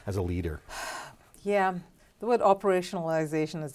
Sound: sharply exhales

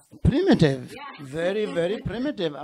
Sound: laughs

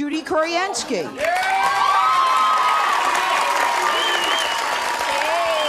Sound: audience cheering

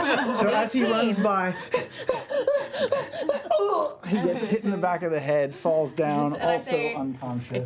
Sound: panicked breathing

